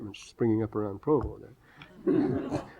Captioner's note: laughter